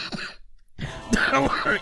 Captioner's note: wheeze